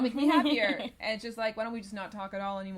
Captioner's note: laughs